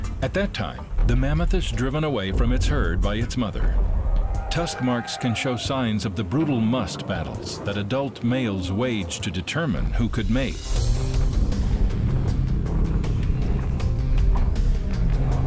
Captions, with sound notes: At that time, the mammoth is driven away from its herd by its mother. Tusk marks can show signs of the brutal musth battles that adult males waged to determine who could mate. [snorting]